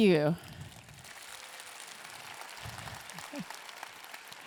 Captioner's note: audience clapping